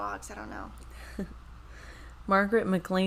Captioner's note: chuckles